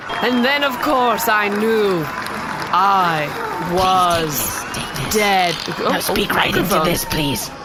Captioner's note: crowd of zealots cheering; announcing grandly